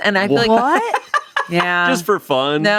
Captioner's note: laughs